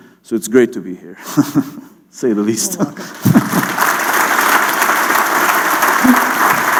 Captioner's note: chuckle; clapping